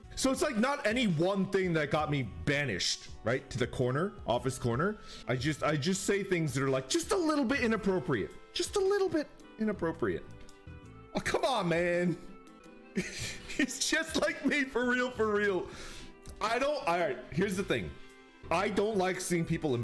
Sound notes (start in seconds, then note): 13.0 chuckles